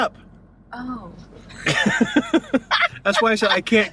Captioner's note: laughing